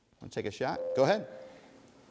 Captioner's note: ding